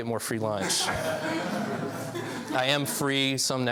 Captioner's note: laughs